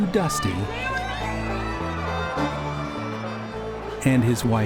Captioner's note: crowd erupts in cheers